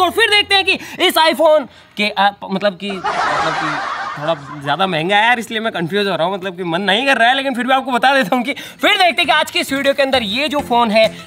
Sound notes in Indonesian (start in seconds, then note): 1.9 gagap; 2.8 orang-orang tertawa